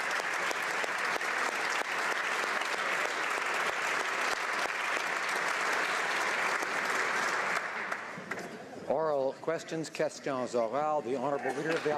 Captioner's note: applause